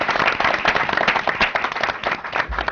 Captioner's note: applause